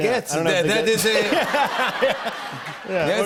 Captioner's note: laughter